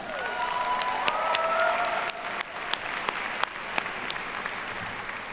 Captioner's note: audience cheers and applauds